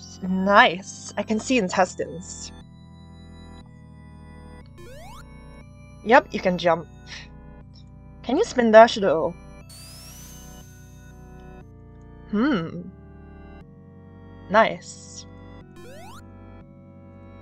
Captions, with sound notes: Nice, I can see intestines. Nice, I can see intestines. *jump sound* *jump sound* Yup, you can jump. Yup, you can jump. Can you spindash, though? Can you spindash, though? *spindash sound* *spindash sound* Hmm! Hmm! Nice. Nice. *jump sound* *jump sound*